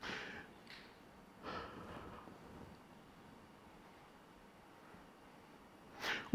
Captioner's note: inhales and exhales deeply